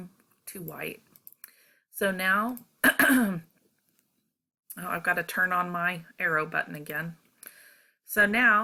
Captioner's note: cough